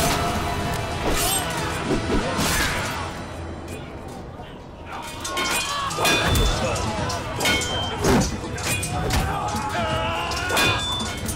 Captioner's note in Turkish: Çarpışma sesleri